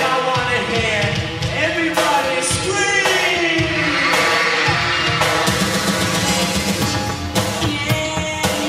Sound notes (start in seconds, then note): 3.3 crowd screams